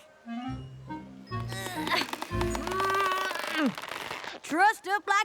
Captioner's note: grunting